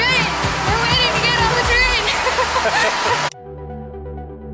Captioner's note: laughter